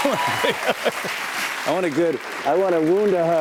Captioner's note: laughs; cheers and applause